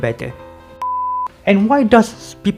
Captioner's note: beep